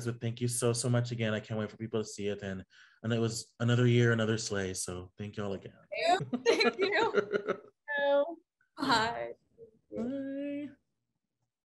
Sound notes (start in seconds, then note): 6.1 giggling